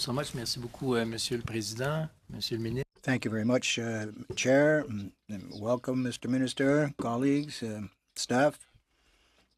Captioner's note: speaking French